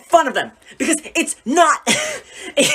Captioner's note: laughs